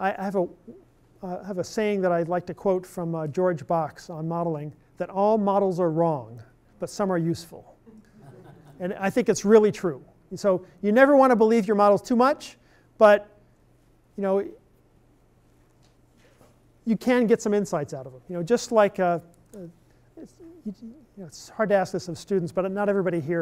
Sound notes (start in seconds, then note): 7.9 laughter